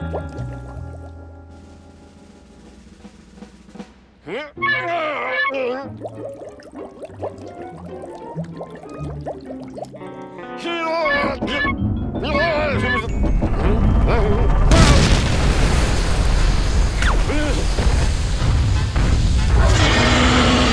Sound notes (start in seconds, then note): 3.9 groaning; 5.3 bubbles popping; 10.2 strained grunting; 13.1 rumbling sound; 19.6 roars